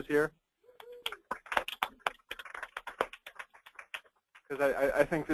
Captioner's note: applause